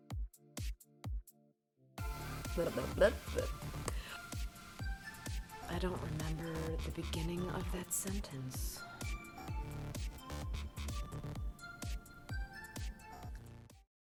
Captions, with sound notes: (making bubble sounds) I don't remember the beginning of that sentence.